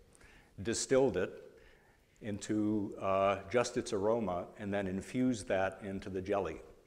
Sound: none

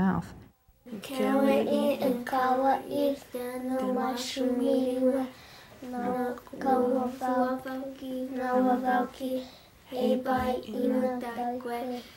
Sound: talking in Native language

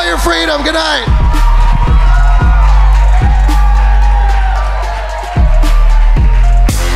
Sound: audience cheers and applauds; pumping music

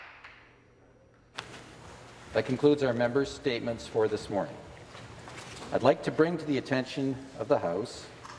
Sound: applause

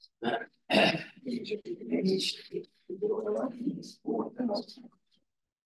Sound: audio distorting

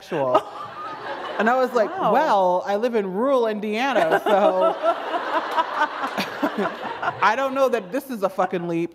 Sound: laughter

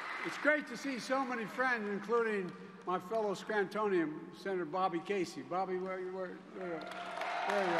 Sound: cheers and applause

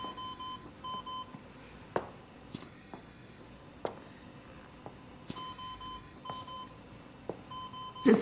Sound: mechanical Ventilation beeping

